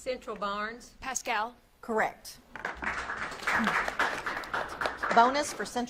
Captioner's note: audience claps